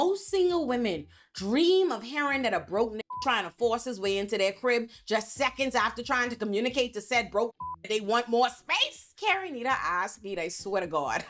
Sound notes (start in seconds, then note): 3.0 beep; 7.6 beep